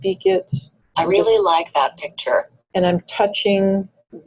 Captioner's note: voiceover